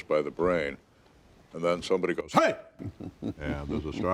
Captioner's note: participant laughing